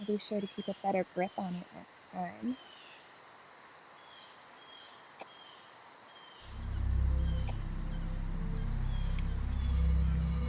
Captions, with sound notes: I'll be sure to keep a better grip on it next time. (lips smack) (eerie music)